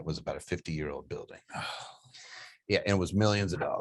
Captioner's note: sighs